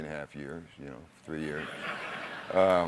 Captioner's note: laughter